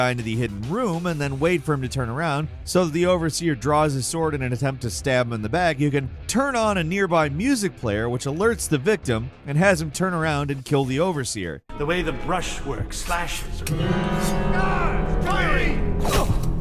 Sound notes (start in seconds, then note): 13.9 alarm ringing